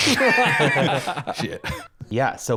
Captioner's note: all laughing